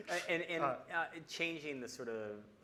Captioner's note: laughing